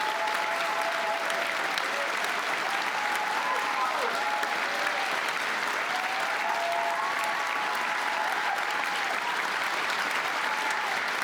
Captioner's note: cheers and applause